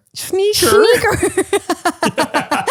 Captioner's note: laughs